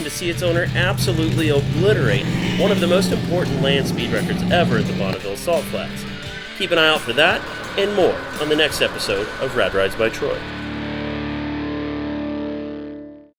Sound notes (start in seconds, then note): 1.5 car engine rumbling